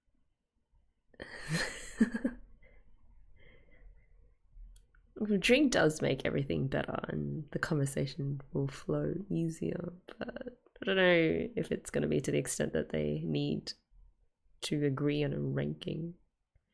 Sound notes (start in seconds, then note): 1.3 laughs